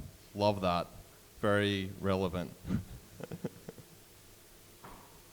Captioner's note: laughs